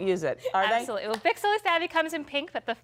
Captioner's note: laughter